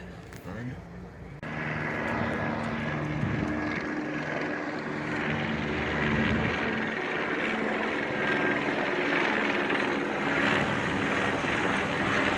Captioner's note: helicopter flies over